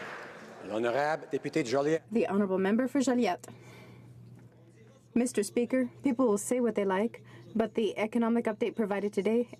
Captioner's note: applause